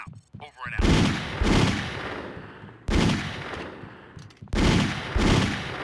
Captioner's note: gun firing